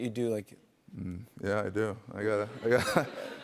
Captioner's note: laughs